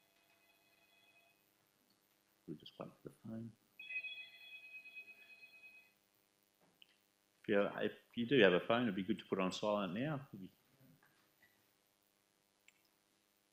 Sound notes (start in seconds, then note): 0.0 phone rings; 3.8 phone rings